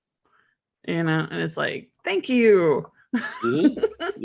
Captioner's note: laughs